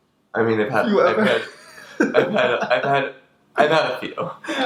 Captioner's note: laughs